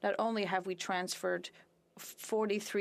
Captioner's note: speaking French